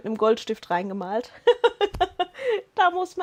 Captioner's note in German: Lachen